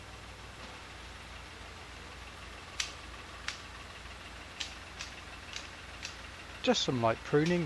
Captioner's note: sound - Shears being used to trim brambles